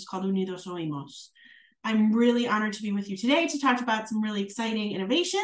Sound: speaking Spanish

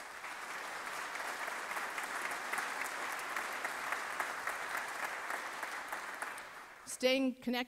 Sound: applause

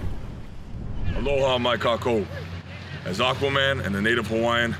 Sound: speaking in foreign language

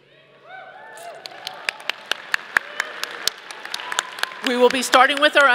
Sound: audience applauding

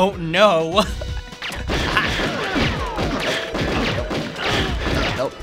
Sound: gunfire exchange

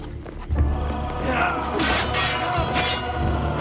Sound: fighting sounds

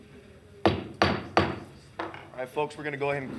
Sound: gavel knocking

